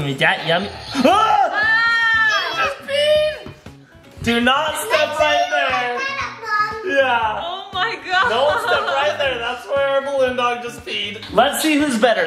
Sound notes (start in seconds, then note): 1.0 shouts